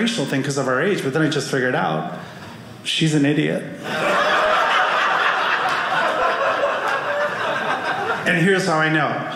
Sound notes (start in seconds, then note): 3.8 audience laughing